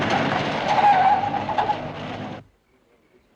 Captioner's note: tires screeching; townsmen chattering